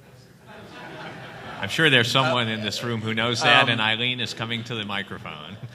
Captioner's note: laughter